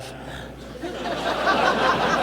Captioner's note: laughter